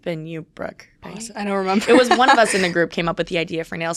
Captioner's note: laughs